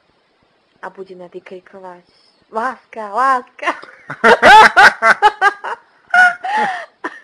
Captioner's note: strong laughter